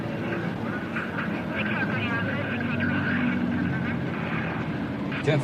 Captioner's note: police radio chattering